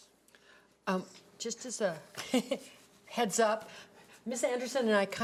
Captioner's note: laughs